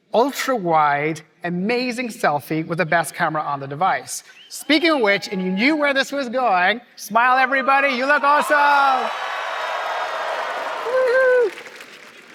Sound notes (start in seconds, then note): 7.4 cheering